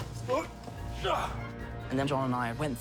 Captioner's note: grunts